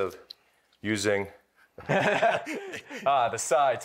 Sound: laughter

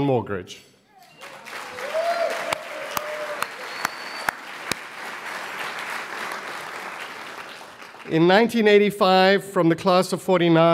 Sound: applause

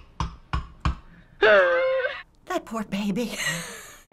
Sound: baby screams

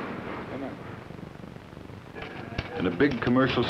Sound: typewriter clacking

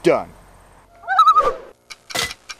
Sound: loon calls

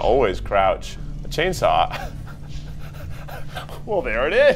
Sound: laughs

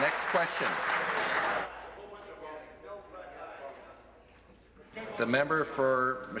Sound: applause

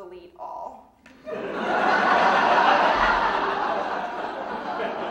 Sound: audience laughing

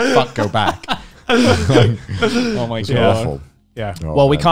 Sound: men laughing

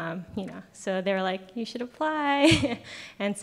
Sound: laughs

